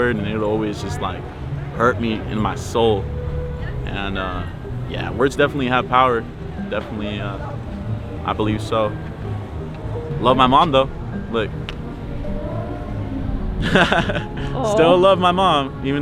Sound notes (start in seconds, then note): 13.0 laughing